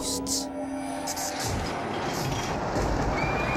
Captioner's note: eerie soundscape; electricity, roller coaster clacking; eerie soundscape; screams